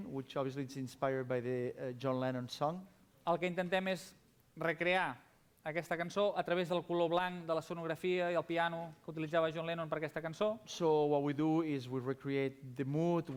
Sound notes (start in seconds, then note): 6.2 non-english speech